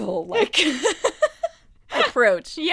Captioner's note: laughing